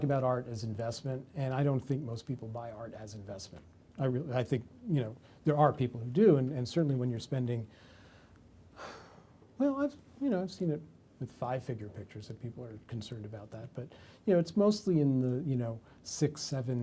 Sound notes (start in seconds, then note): 8.8 sighs